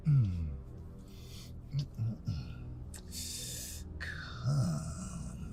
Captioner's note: moaning and mumbling